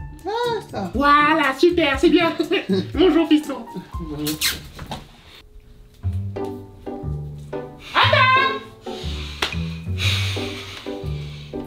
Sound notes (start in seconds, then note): 2.3 they laugh; 4.2 tchip